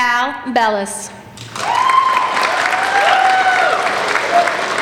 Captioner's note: applauding